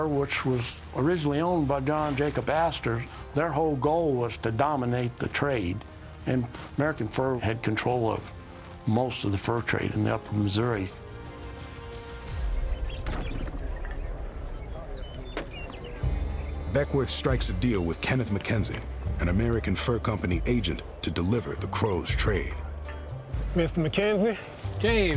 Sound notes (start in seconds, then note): 13.7 birds chirping